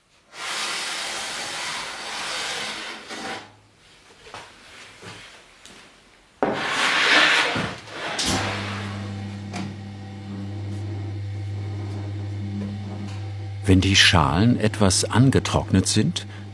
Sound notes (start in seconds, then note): 6.3 grinding sounds; 8.0 quiet whirring